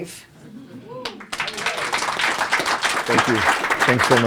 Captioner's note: applause